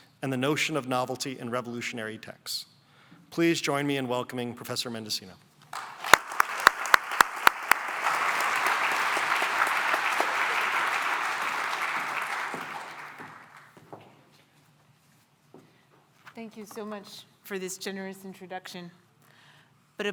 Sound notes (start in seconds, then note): 5.7 applause